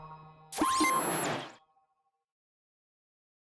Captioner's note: logo chimes; logo beeps